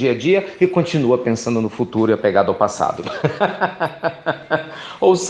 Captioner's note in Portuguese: Risos